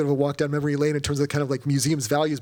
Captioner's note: none